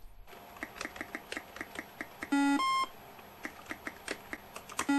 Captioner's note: tapping and beeps